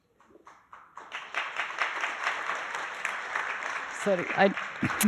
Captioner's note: audience applauding